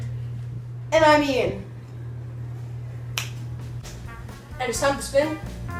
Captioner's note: snaps